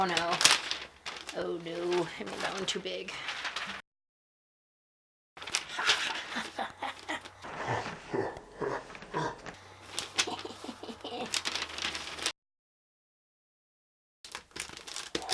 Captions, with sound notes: oh no oh no I made that one too big haha hahaha [evil laughter] hee hee hee hee hee